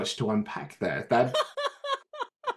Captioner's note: laughs